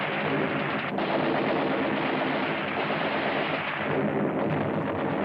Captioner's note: heavy gunfire